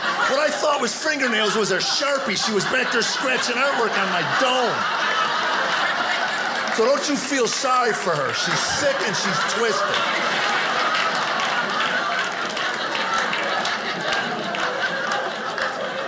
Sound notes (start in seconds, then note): 10.2 audience applauding